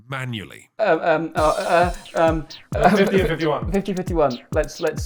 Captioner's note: stammering